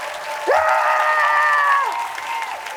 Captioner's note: screaming